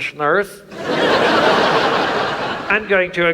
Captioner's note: audience laughs